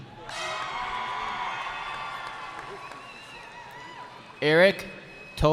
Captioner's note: cheering